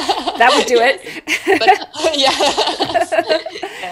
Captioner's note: laughs